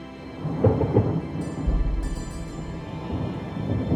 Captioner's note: thunder rumbling